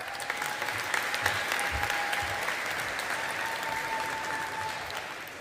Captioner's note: audience applauding